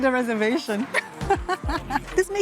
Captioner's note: laughs